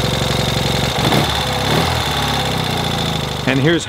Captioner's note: engine roaring